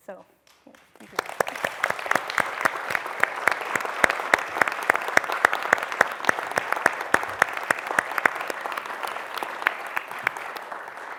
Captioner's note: applause